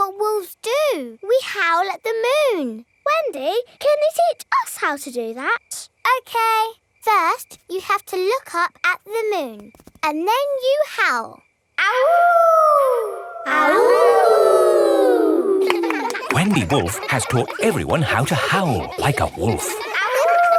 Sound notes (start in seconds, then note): 12.0 howling; 13.9 kids howling